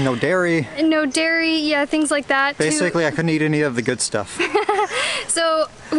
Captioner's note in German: Gelächter